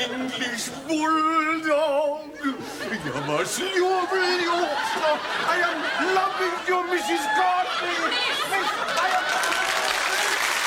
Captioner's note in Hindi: तालियाँ